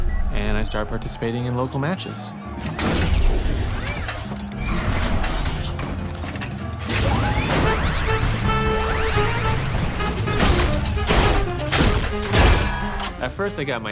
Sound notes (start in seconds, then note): 1.0 crowd cheering; 2.6 robots whir